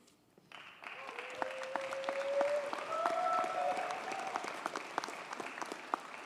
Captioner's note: audience cheers and applauds